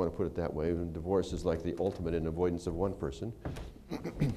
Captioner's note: laughter